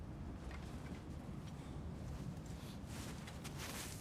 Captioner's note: none